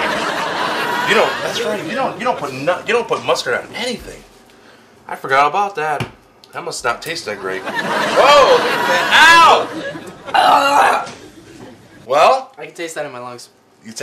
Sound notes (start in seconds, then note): 7.4 audience laughs; 10.3 gurgles